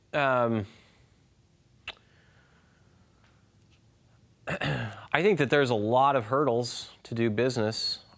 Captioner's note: clears throat